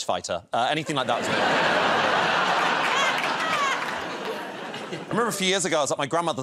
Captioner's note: laughter